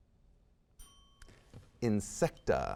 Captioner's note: bell dings